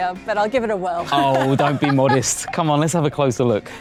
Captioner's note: laughs